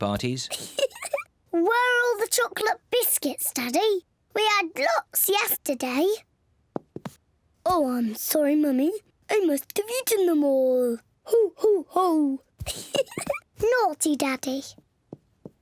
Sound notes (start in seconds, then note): 0.5 laughs; 7.3 in deep voice; 12.6 giggles; 13.5 in normal voice